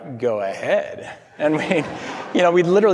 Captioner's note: laughs; audience laughing